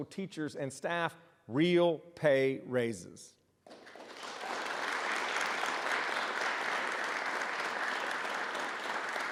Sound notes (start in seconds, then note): 3.6 applause